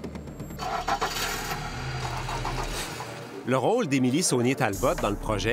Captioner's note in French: bruit de démarreur